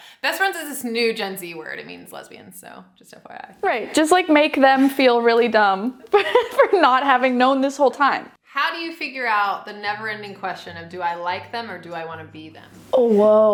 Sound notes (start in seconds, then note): 6.1 giggling